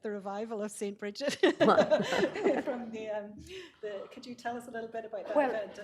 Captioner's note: laughs